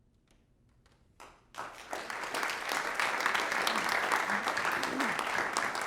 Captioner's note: applause